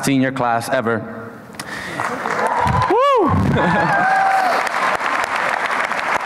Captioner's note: applause and cheering